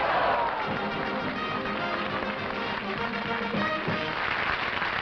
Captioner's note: applause